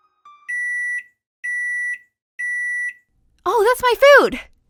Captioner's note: microwave beeping